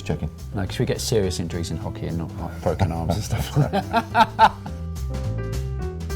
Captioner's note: laughs